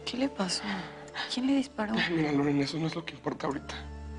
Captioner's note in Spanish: none